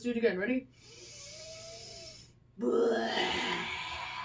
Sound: inhales; exhales dramatically

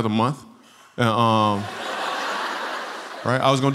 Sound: laughter

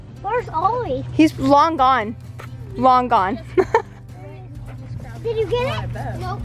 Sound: laughs

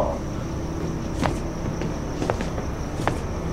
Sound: footsteps

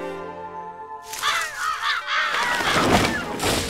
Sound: crows cawing

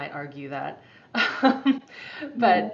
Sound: laughing

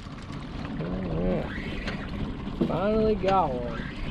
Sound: boat engine idling

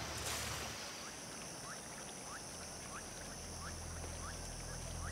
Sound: insects trilling

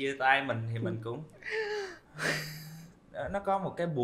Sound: sigh

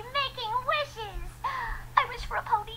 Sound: gasp

